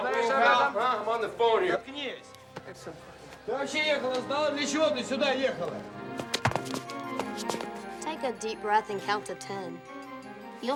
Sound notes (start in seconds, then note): 3.3 speaking russian